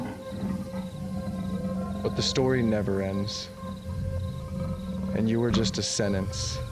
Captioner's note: panther growling